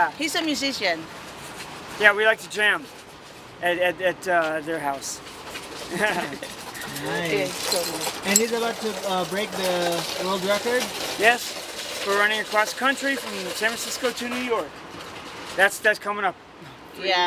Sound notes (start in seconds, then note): 5.8 giggles; 6.7 murmurs